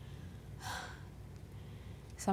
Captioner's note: sighs